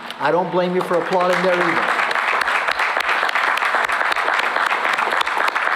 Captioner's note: applause